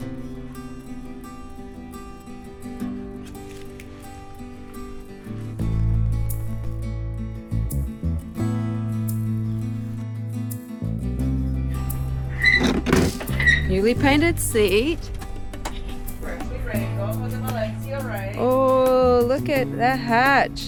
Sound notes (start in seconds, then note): 0.0 soft music; 4.4 metal clanking